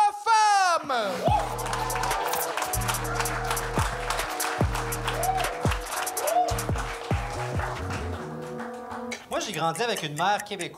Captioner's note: shouts and applause